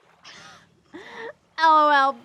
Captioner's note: Janet scoffs